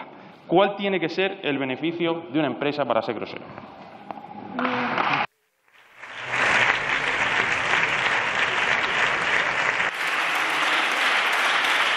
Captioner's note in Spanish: Aplausos